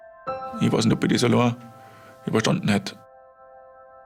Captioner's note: German